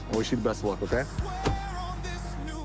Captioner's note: door bangs